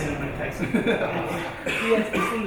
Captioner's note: laughing